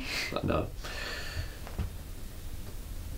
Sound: takes a breath

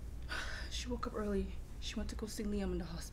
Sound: sighs

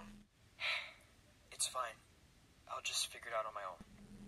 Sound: sigh

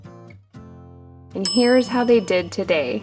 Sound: timer dings

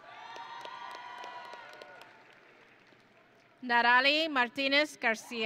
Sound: audience and graduates cheering

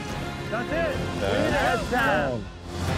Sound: overlapping chatter

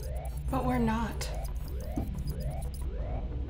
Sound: computer trilling; alarm blaring; intense music

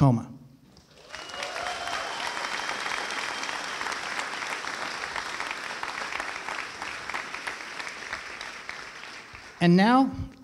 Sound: applause

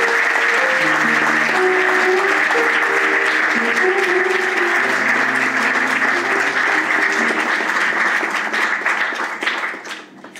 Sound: applause and music

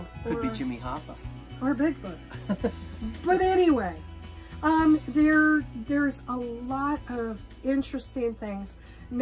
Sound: laughing

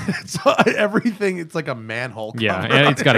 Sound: laughter

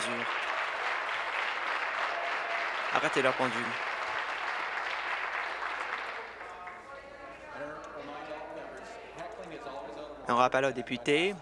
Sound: applause

